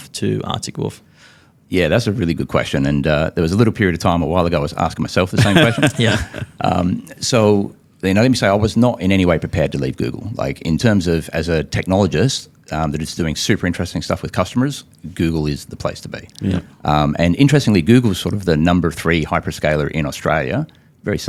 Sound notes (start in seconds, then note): 5.4 laughs